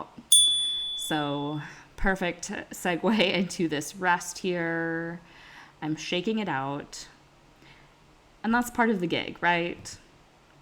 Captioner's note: chime